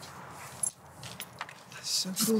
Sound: rustling

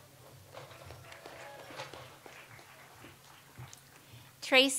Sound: audience applauds

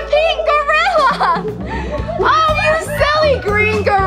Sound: laughs

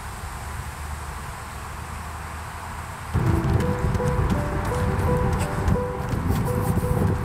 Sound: wind noise

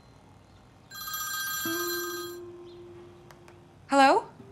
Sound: phone rings

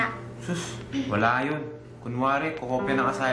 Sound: scoffs

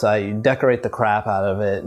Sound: beeping

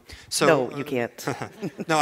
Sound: laughter

